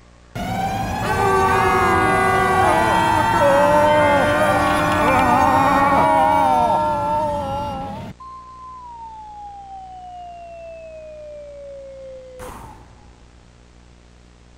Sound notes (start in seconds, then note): 0.3 sirens blaring; 2.7 screaming; 8.3 slide whistle; 12.4 distant explosion